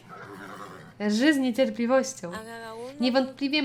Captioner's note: Clyde whinnies expectantly